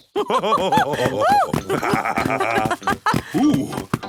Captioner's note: both laugh